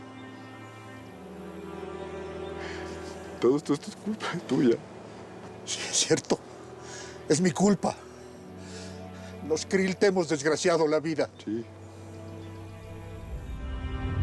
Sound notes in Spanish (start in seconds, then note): 2.7 sollozos